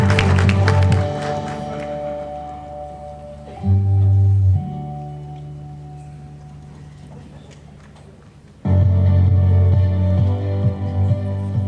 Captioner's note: applause